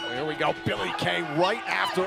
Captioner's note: bell ringing